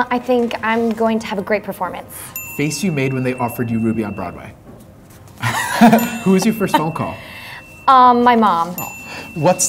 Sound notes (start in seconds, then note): 5.4 laughs